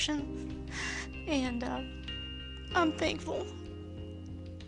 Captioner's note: voice breaking